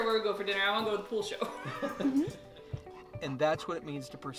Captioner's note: laughing